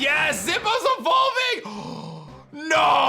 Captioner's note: gasps